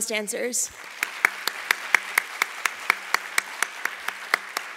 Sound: audience applauding

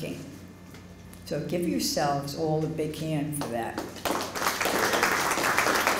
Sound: applause

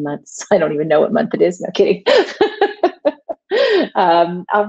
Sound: laughs

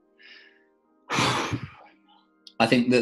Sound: exhales

